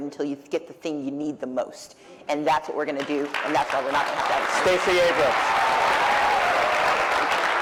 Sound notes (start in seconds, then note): 3.0 applause; 6.0 cheering